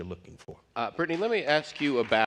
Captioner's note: applause